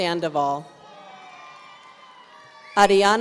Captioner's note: audience cheering